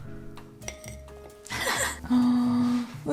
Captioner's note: laughs